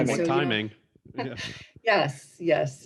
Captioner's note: group chuckles